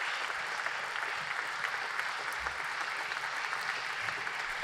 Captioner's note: applause